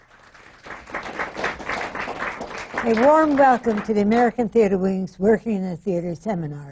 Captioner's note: applause